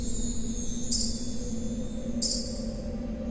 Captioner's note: anklet chiming